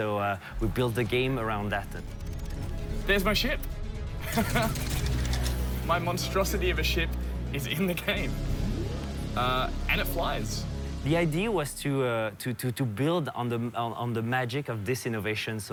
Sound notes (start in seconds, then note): 4.3 laughs